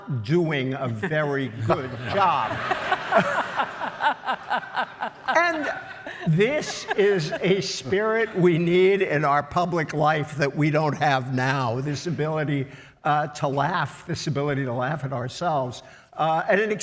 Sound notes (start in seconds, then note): 3.3 all laugh